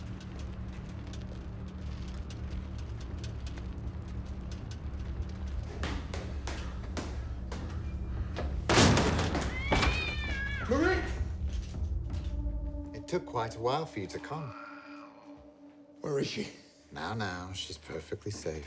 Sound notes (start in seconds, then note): 8.6 door thuds; 9.4 cat meows